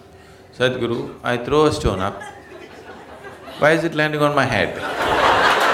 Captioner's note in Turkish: gülüşler